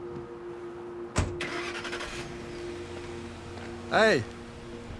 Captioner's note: car door slams; engine revs